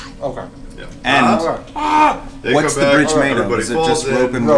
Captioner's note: yells